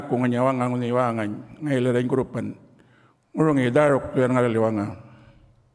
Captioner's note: continues to speak native language